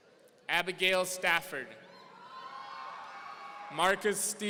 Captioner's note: audience cheering